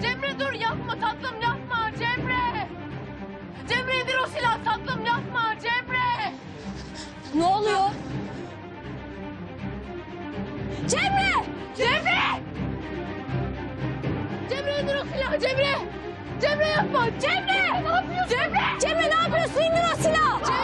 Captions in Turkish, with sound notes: Cemre, dur, yapma tatlım, yapma. Cemre. Cemre, indir o silahı tatlım.. Yapma, Cemre. Ne oluyor? Cemre. Cemre. Cemre, indir o silahı. Cemre. Cemre, yapma. (Bağırışmalar) Cemre, ne yapıyorsun? İndir o silahı.